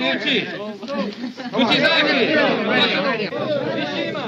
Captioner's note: chattering